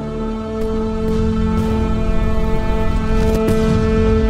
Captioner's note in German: Explosion